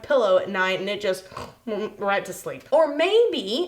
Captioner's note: snores